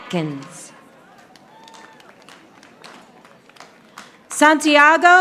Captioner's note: audience applauding